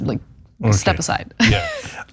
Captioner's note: laugh